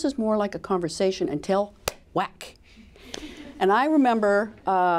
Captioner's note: claps hand